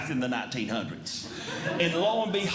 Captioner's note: audience Laughing